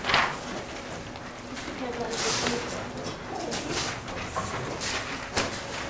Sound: students chattering quietly

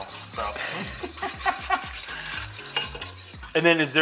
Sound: laughs

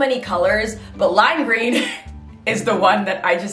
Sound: laughs

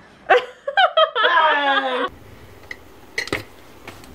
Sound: laughing

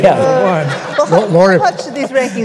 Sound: laughter

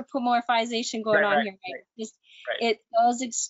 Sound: murmurs

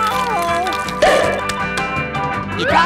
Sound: popping

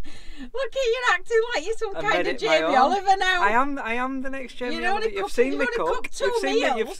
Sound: laughing

